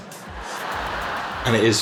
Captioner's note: audience laughing